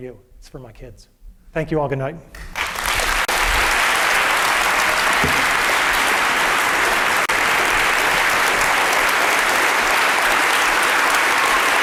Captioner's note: applause